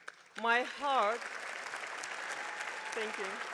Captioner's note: attendees applauding